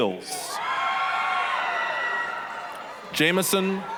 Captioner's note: applause, cheering